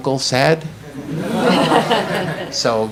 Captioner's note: audience laughs